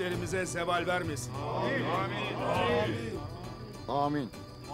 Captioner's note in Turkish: Hep bir ağızdan